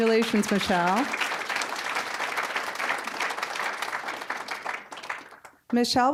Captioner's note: applause